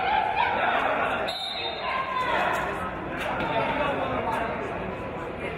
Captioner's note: referee's whistle